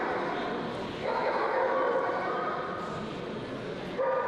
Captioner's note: woof woof; bark bark